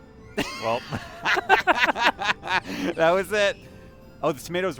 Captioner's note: laughter